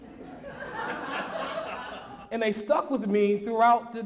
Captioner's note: audience laughs